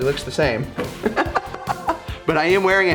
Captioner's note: laughing